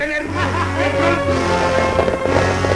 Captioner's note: laughs